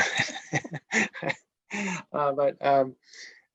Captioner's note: laughs